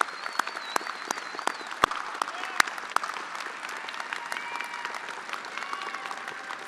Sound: attendees applauding and cheering

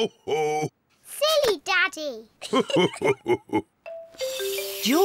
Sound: both laugh

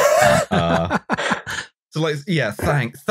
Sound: laughter

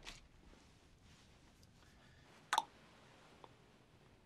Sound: clicks tongue

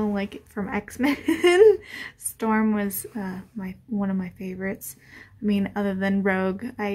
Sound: giggles

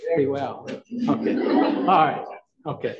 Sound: audience chuckles

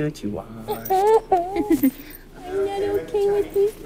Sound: laughing

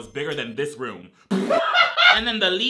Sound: laughs

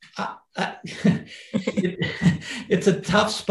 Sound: both laughing

